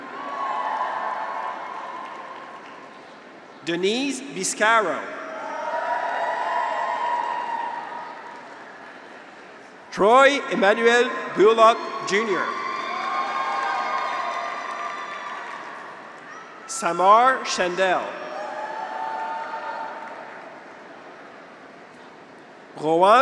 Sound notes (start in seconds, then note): 0.0 graduates cheer; 1.2 audience applauds; 4.4 graduates cheer; 5.6 audience applauds; 12.7 audience applauds; 12.8 graduates cheer; 18.7 audience applauds; 18.7 graduates cheer